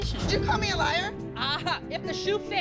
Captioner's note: laughs